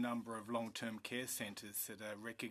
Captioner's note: speaking French